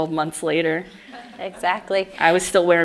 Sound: audience laughs

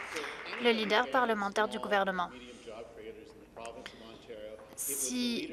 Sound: applause

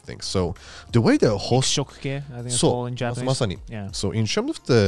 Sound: speaking in foreign language

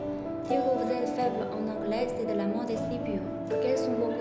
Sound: French

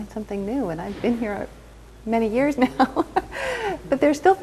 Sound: chuckles

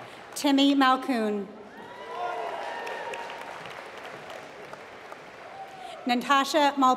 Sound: applause

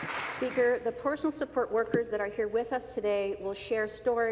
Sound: applause

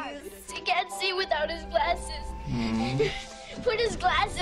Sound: sighs sadly

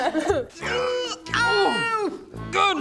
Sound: Horatio in pain

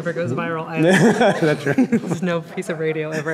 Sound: laughing

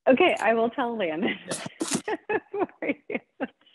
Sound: laughs

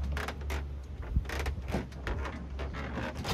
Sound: wood creaks

